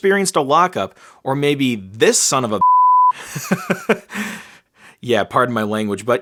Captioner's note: beep